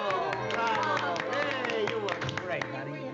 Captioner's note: applause